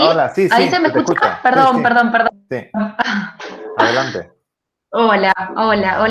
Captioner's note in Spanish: risas